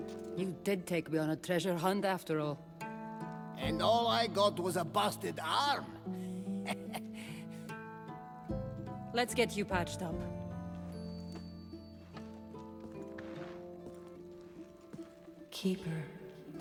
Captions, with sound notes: You DID take me on a treasure hunt, after all. And ALL I got was a busted arm! (laughs) Let’s get you patched up. Keeper...